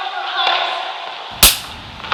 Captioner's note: fake slap sound